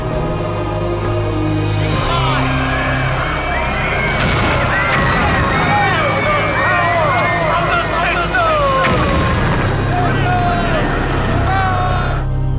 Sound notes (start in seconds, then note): 2.0 screaming; 3.9 ominous music